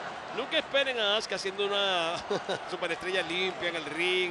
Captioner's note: laugh